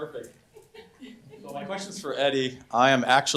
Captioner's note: on microphone